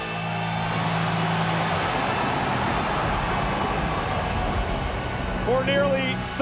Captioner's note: audience cheering; lightning crashing